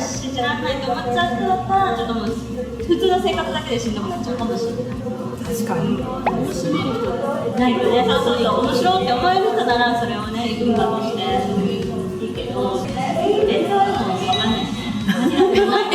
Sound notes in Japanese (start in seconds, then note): 15.1 笑い